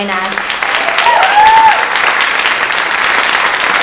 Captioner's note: audience applauding